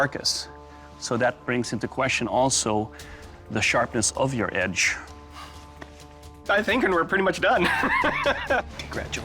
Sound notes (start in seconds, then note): 7.6 laughs